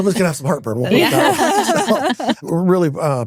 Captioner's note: laughing